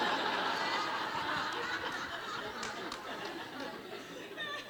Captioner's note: audience laughs